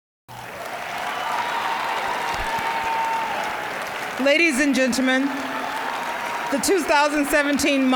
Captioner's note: cheering, applause